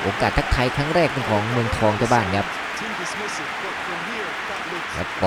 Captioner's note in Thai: ปรบมือ